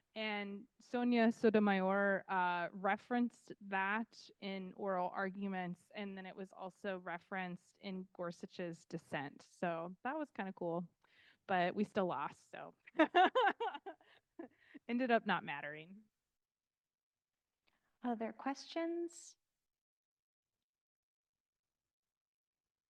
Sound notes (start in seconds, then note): 13.0 laughing